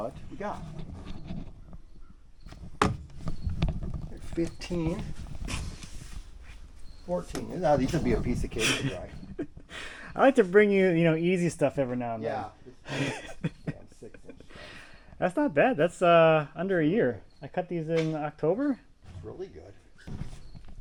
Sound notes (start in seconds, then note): 12.8 both chuckle